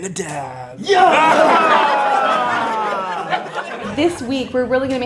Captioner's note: group cheering